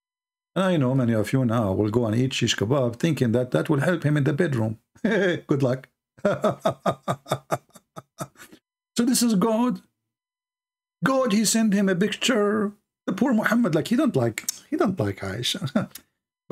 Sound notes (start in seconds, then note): 6.2 Ketawa